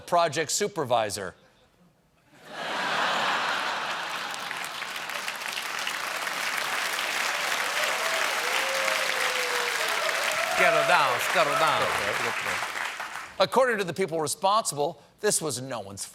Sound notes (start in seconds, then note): 3.4 applause; 4.1 laughter